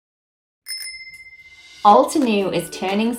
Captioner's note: bicycle bell rings